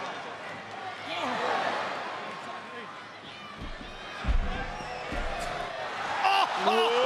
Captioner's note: applause